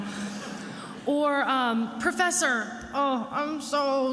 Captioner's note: attendees laughing